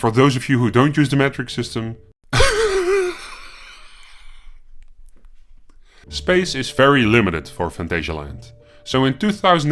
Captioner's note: wheezing in European